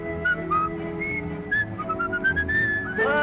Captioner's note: whistling